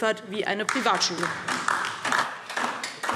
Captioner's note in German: Beifall DIE LINKE